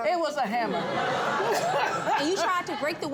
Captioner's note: audience laughing